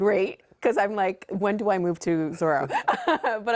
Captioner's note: laughing